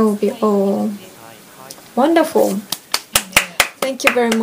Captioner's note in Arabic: تصفيق